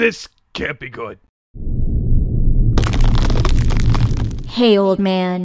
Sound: rumbling

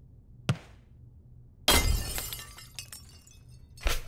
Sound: crash; loud stomping and metal jingling

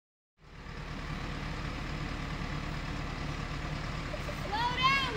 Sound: engine running

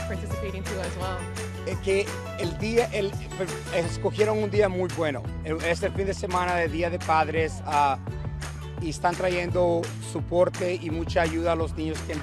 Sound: Spanish

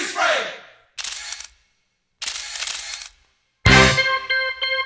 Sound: cameras flashing; upbeat music

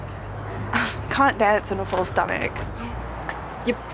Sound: laughs

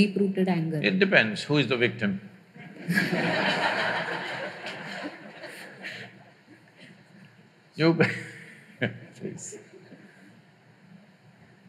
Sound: laughter; laughs

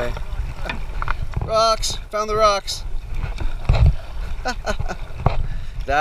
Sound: laughter

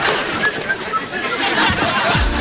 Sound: whistling

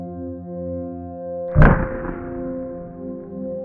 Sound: bb gun shooting up close

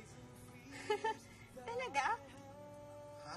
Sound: chuckles; giggles

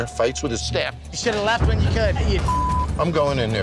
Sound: beep

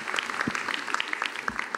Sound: applause

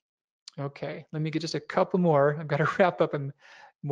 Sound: laughs

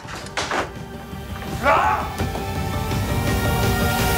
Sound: shout

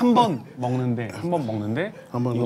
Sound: in Korean

